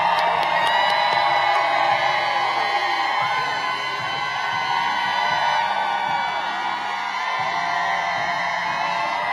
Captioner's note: applause